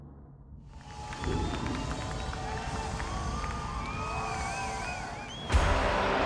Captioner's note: audience applauds and cheers; upbeat music